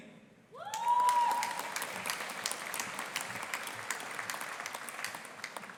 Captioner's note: audience applauding and cheering